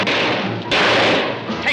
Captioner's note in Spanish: Disparos